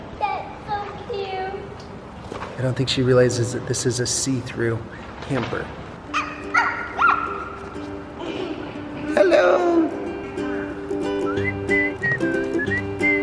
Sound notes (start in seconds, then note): 6.2 barks like a dog; 10.9 upbeat music